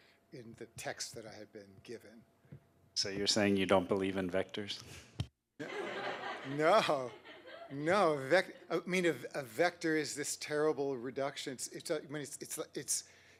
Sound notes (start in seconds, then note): 5.6 laughter; 5.6 laughing